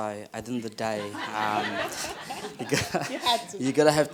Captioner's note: laughter